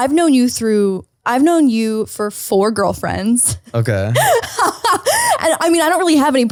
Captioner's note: laughs